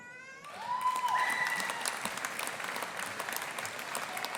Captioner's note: audience applauding